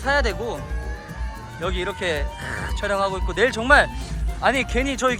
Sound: excited cheering teams

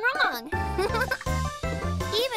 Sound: Hogi chuckles

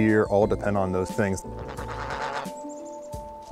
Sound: turkey gobbling

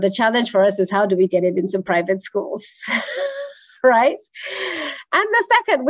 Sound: chuckles

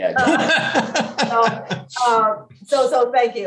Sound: laughs

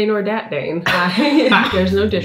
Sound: both laughing

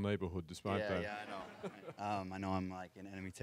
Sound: audience laughs

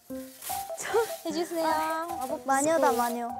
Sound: sweeping

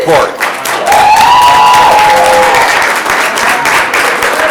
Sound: audience applauding

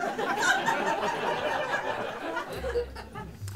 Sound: laughter

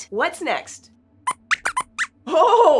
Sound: squeaks squeaks

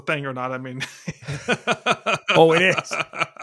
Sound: laughing

